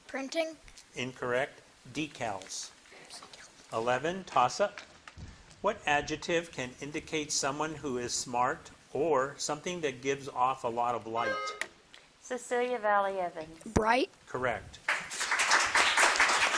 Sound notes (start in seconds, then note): 11.2 bell dinging; 14.8 audience clapping